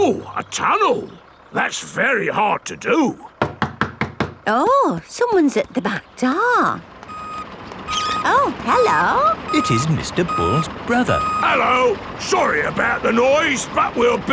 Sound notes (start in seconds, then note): 3.4 knocking at door